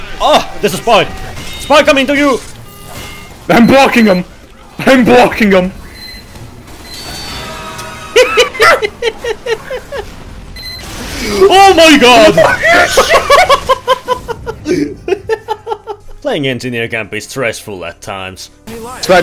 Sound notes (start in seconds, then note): 8.1 hyena laughing; 12.3 laughter continues